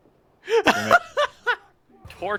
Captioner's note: laughter